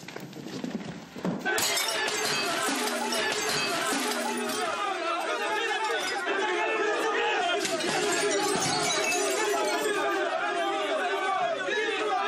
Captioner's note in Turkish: Bağrışmalar